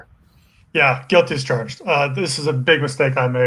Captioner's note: murmurs